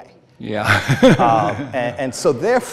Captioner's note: laughs